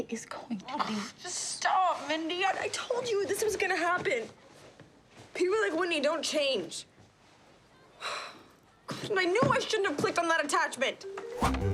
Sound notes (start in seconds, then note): 7.7 sighs